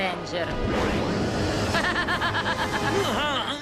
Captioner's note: laughs evilly